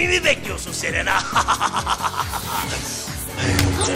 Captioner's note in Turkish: Kahkaha atıyor